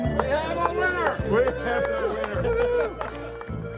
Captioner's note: sparse cheering